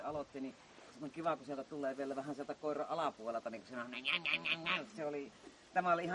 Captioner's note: sound imitation